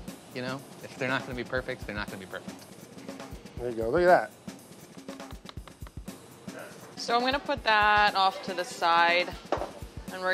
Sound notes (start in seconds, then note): 5.1 wooden spoon tapping